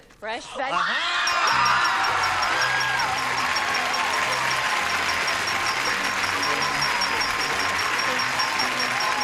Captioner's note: applause, cheering